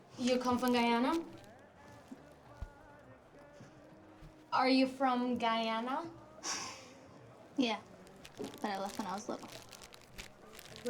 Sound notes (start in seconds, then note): 6.9 sighs